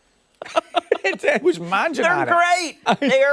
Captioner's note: laughter